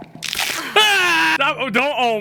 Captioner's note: Skull yells